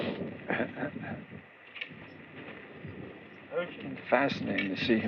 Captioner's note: chuckles